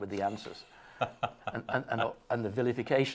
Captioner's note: laughing